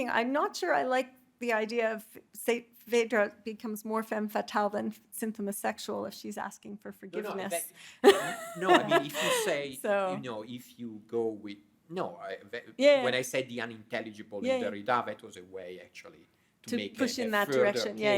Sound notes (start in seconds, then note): 8.0 laughing